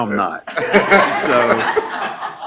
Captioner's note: laughing